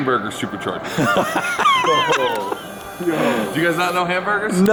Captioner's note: men laughing